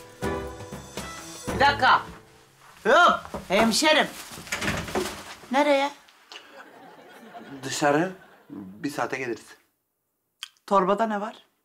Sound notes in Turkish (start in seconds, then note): 6.3 Gülme efekti